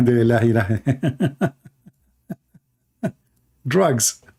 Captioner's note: Ketawa